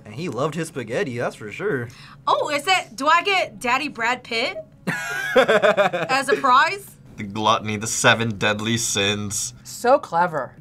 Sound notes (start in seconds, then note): 4.8 laughs